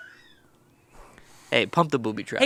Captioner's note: crew laughs